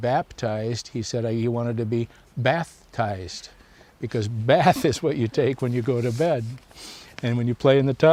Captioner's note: laughs